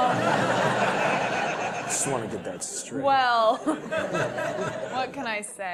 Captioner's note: laugh; laugh